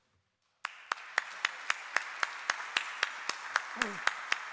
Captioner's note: applause